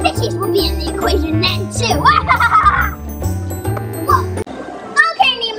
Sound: evil laughs

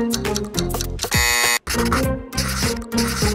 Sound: buzzer

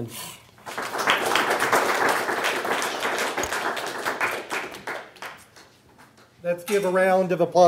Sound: applause

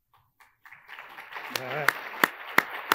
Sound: attendees applauding

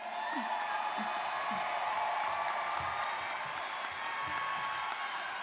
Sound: students cheering and applauding

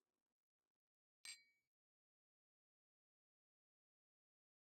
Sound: glass clinking

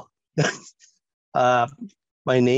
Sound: chuckles

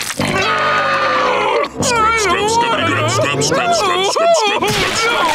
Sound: crying

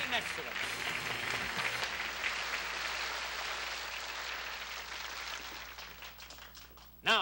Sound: applause

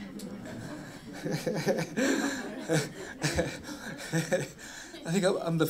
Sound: laughs

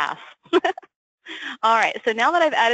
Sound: laughs

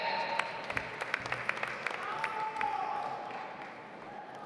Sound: audience applauds

